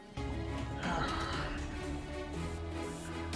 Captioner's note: sighs